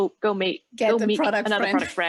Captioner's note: laughs